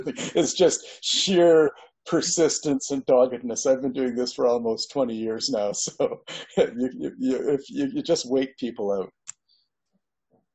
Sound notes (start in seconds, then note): 5.9 laughs